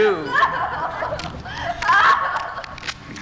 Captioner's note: Liz screaming and sobbing